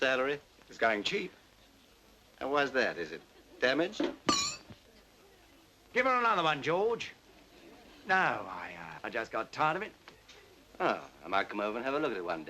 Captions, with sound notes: It's going cheap. And why is that? Is it damaged? [glass clinks] Give her another one, George. No, I just got tired of it. Oh, I might come over and have a look at it one day.